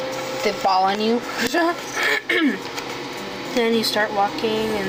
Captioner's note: laughing and clears throat